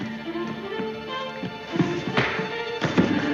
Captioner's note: punches thudding